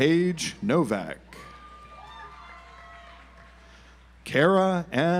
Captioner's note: audience applauds